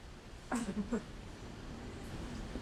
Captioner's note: cameraperson laughs nervously